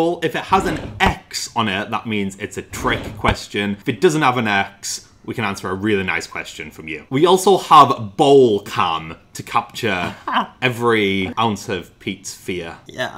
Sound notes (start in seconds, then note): 9.9 giggles